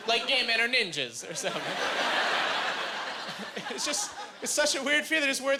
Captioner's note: laughing